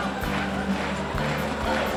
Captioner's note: Applauso